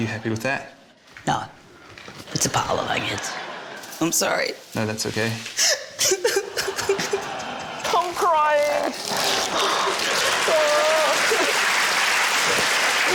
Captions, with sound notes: - Are you happy with that? - No. It's a pile of onions. I'm sorry. - No, that's OK. - (CRIES) - I'm crying. (WHIMPERS) (CHEERING, APPLAUSE, LAUGHTER)